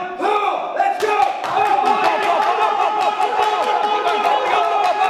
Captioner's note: shouts of encouragement